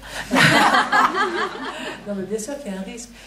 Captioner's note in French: rires